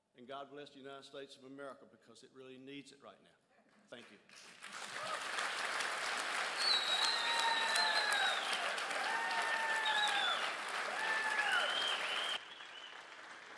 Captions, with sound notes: And God bless the United States of America because it really needs it right now. Thank you. (crowd applauds and cheers)